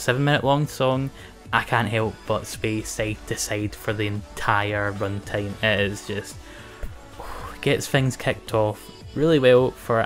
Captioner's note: sighs